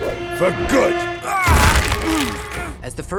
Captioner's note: groaning